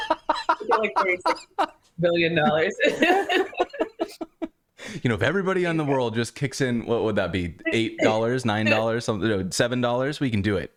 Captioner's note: laughter